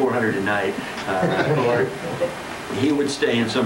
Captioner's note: laughter